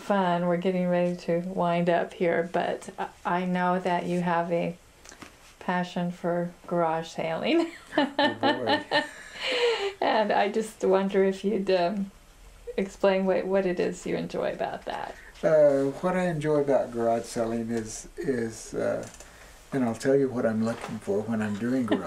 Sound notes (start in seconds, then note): 7.6 laughter